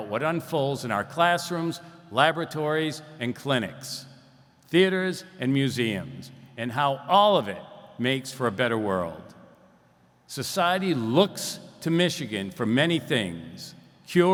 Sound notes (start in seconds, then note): none